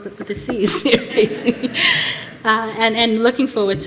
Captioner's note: laughter